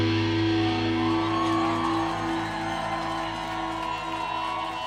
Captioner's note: audience cheering